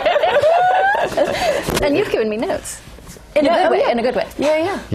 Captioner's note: laugh